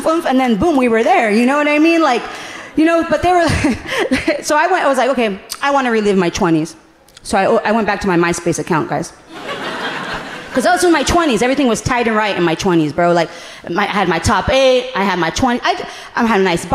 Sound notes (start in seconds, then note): 3.9 laughing